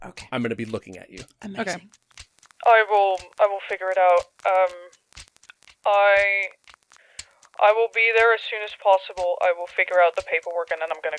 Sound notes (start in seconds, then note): 2.9 over the phone